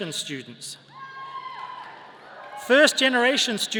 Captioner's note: people cheering